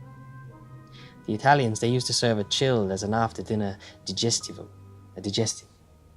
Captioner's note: speaking italian